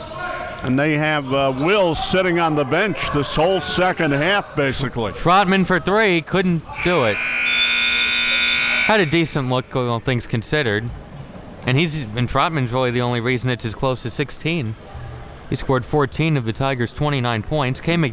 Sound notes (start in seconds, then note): 6.8 buzzer buzzing